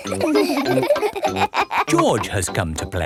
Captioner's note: all laughing